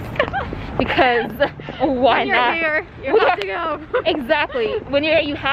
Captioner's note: laughs